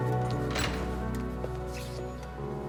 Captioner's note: footstep